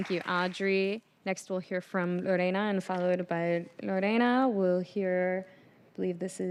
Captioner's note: applause